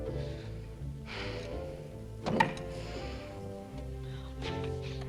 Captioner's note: Tracima sighs